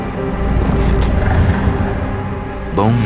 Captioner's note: horse snorts